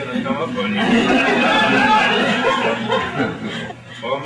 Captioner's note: laughter